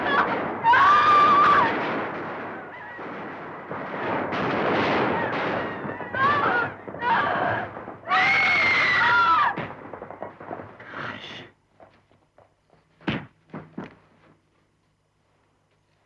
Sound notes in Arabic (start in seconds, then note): 0.6 يصرخ; 6.4 تصرخ المرأة